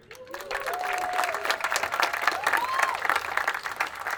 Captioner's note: attendees applauding